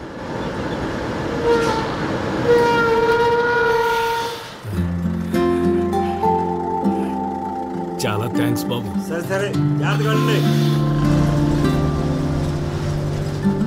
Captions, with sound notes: [Brakes squeal] Thanks a lot. It's okay go carefully.